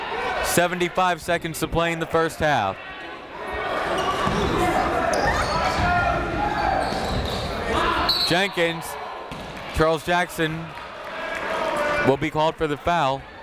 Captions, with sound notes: 75 seconds to play in the first half. (whistle) Jenkins, Charles Jackson will be called for the foul.